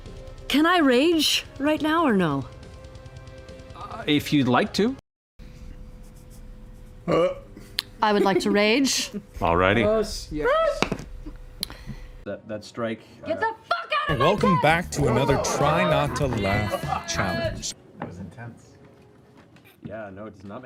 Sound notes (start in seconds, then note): 10.4 minimal cheers